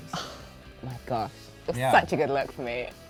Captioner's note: gasps